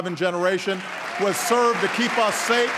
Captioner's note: applause